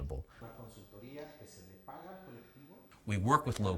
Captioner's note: speaking Spanish